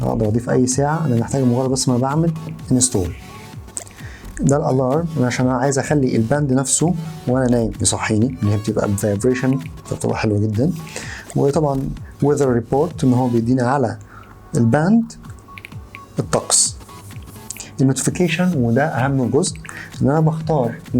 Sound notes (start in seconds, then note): 10.7 vibration Alarm